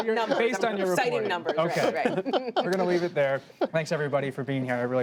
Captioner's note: laughter